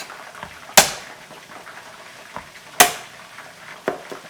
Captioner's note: knife tapping